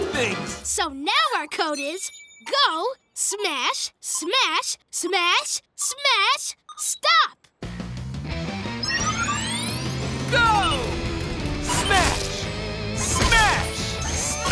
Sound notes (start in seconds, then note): none